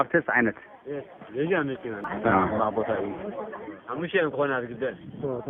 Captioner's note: tigrinya spoken audio